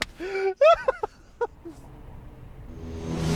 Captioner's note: laughs